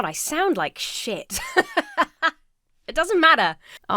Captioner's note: laughs